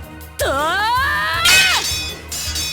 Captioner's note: rallying cry